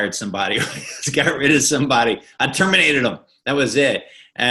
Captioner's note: chuckling